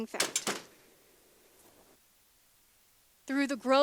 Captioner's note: woman knocks